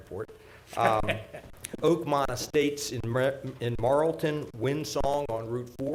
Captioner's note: chuckling